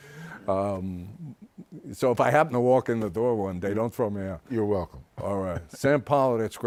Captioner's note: laughs